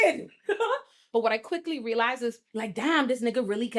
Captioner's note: laughs